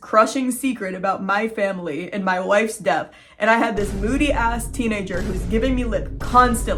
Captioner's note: several vine booms